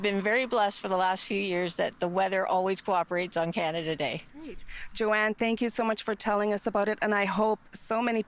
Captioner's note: none